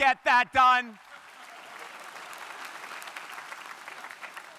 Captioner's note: crowd applauding